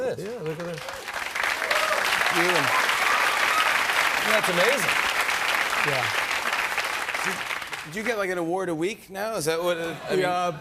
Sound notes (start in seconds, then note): 0.0 applause